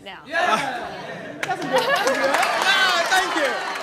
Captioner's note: excited yells and applause